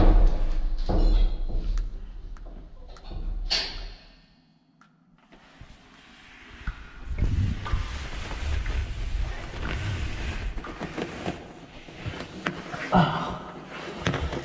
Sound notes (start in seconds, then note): none